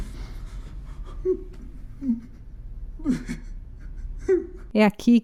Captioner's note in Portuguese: choro